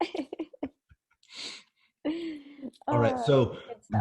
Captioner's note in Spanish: both laugh